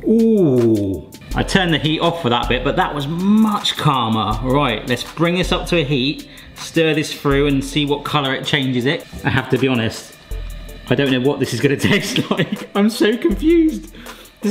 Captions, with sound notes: Ooh, I turned the heat off for that bit, but that was much calmer. Right, let's bring this up to heat, stir this through and see what colour it changes it. I have to be honest, I don't know what this is gonna taste like. (laughs) I'm so confused.